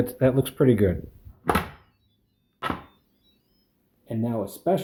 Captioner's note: Instant Pot chimes